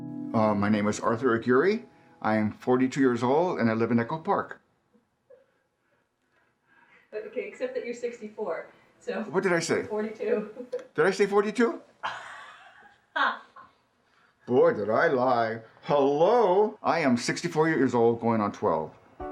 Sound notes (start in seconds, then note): 10.8 chuckles; 12.0 interviewer chuckles